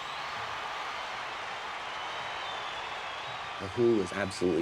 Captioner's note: crowd cheers and applauds